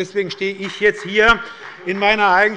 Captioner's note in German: Beifall bei Abgeordneten der SPD